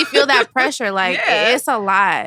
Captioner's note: laughs